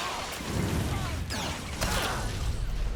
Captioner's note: gun firing